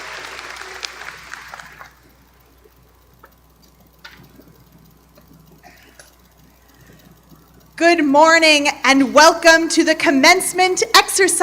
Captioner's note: applause